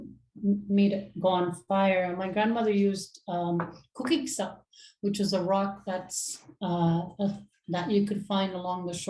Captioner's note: inuktitut